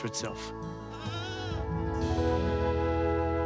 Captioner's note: bleats